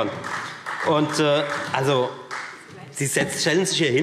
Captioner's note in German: Beifall Freie Demokraten